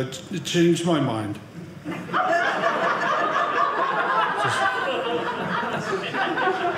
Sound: audience laughing

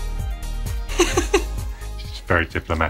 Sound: laughing

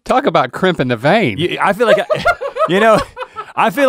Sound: laughing

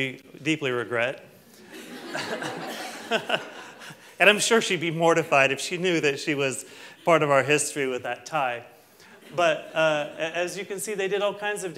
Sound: laughter

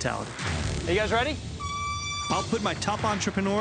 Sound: horn blares

